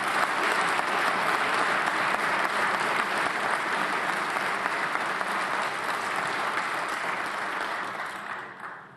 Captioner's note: applause